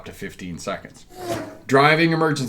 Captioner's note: air whooshing